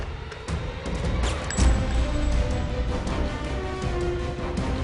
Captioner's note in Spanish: Disparo